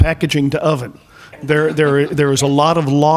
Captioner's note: laughing